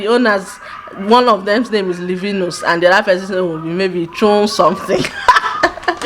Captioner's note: laughs